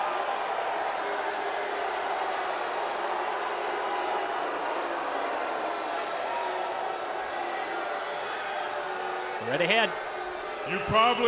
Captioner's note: crowd cheering